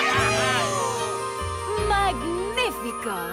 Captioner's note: excited cheers